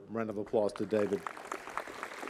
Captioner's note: applause